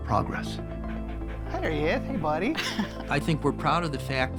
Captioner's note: panting